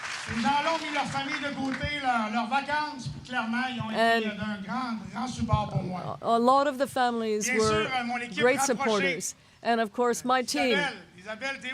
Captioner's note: applause